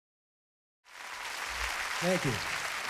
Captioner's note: crowd cheers